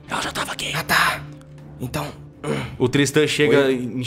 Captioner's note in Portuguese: sussurrando